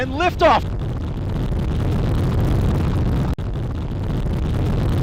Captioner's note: plane engine roaring